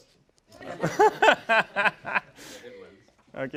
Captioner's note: laugh